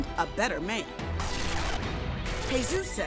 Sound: TV static

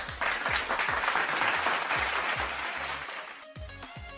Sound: clap

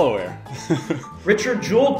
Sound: chuckles

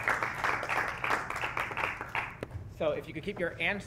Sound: applause

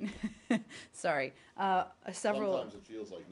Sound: laughter

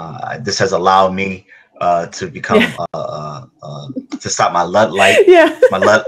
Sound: laughs

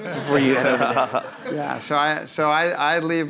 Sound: audience laughing

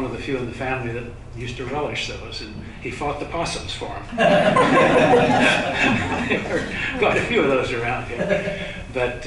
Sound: laughter

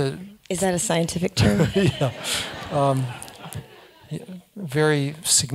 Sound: laugh

